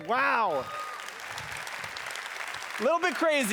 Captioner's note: applause